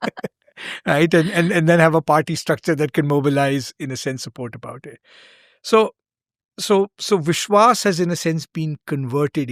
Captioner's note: laughter